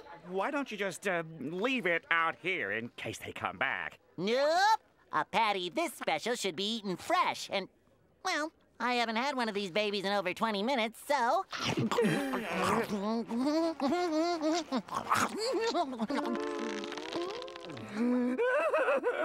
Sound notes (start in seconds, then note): 12.0 groaning; 17.8 sobbing